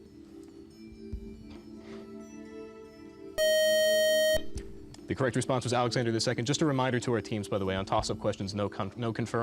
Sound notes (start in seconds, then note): 3.4 beep